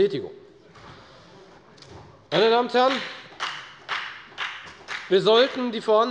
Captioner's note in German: Beifall der Abg